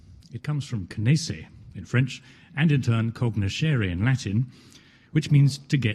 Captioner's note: French language